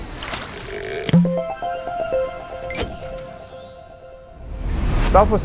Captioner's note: playful chime